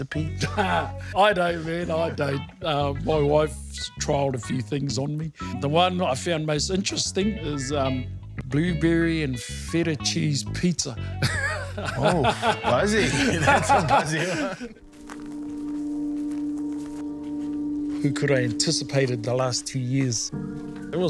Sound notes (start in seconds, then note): 11.1 laughing; 13.9 both laughing